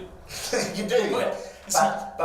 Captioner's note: laughing